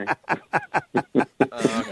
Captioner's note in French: rire gras de l'animateur